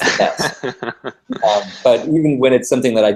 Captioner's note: laugh